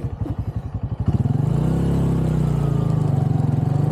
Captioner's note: engine noise